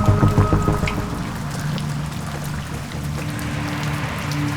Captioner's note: rain pattering